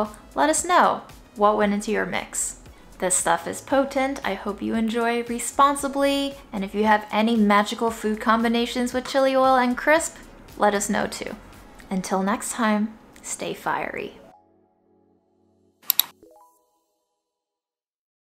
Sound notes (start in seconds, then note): 15.8 mouse clicking; 16.6 link chiming